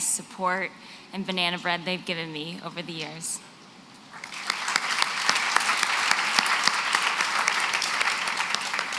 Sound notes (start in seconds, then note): 4.1 applause